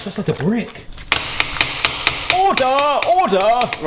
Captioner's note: smacks steak on counter